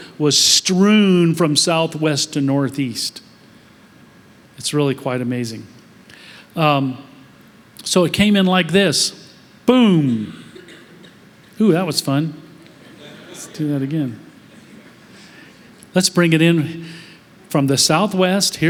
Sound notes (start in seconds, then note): 12.6 laughter